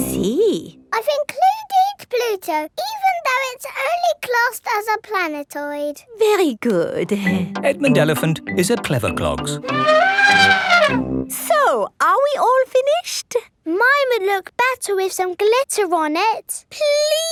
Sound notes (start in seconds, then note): 9.6 trumpeting